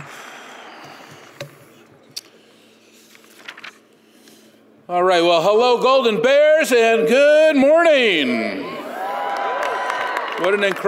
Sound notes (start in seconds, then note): 2.7 exhales deeply; 8.8 audience applauds